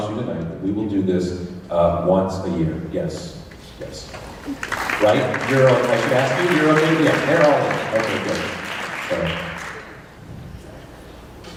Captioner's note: applause